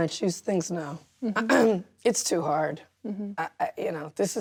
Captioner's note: clears throat